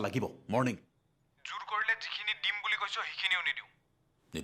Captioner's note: over Phone